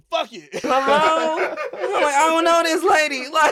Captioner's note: laughing